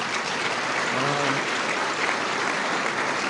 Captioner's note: applause